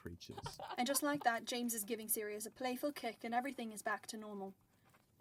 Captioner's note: girls giggle